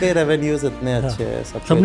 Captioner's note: speaks in Hindi